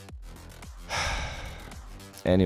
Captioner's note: sigh